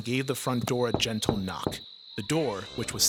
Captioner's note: knuckles rapping